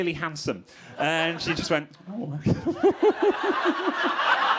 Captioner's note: crowd laughing; laughs